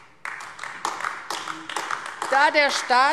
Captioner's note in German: Beifall AfD